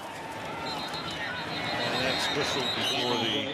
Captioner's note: whistle